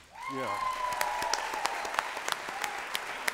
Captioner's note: applause